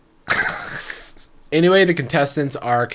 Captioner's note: laughing